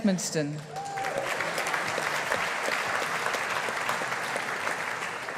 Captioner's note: audience applauding